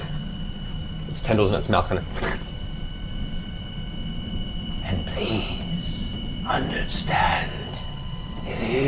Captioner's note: slurping SFX; breathy voice